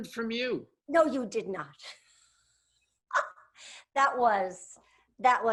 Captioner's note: laughs